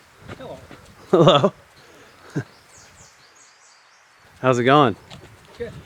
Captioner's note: awkward chuckle